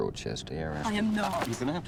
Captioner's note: paper rustling